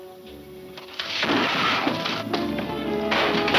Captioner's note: crashing; gunfire pops